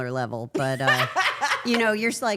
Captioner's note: Claressa laughing